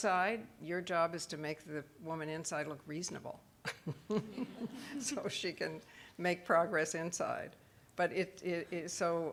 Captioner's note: laughing